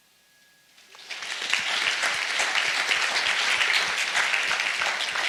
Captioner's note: audience applauds